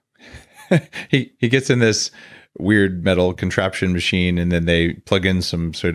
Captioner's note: laughs